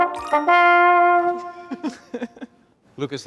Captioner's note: trombone music; laughing